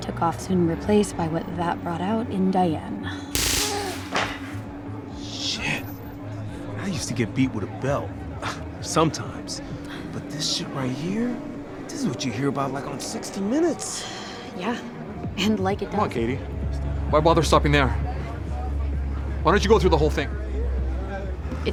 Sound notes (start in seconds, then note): 3.3 electricity crackles